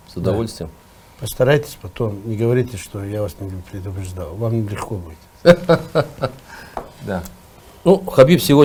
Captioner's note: laughs